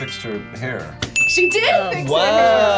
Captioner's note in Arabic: قرع الجرس